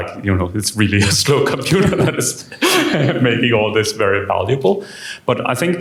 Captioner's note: chuckles